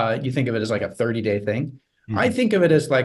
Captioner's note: none